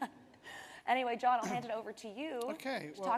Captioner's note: chuckles; clears throat